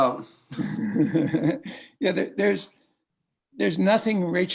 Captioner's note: laughs